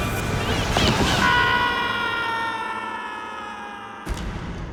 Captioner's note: dramatic, suspenseful music; boy screaming